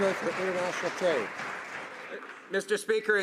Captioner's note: some Applause